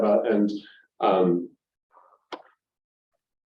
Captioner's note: pause